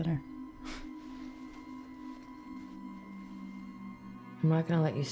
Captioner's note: Claire scoffs